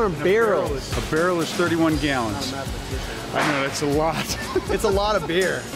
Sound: laughs

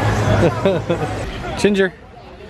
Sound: chuckles

